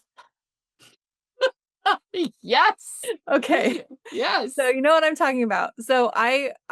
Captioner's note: laughs